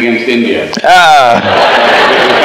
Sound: laughter

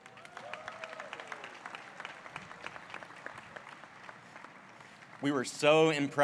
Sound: applause

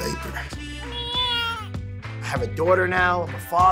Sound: baby cries

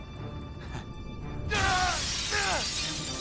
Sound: scream

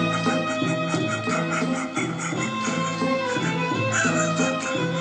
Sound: Herod laughing

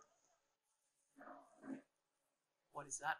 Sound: butt yodels

